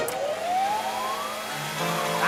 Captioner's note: machine whirs